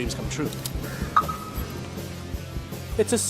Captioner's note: car alarm beeps